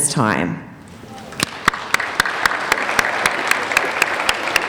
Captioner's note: applauding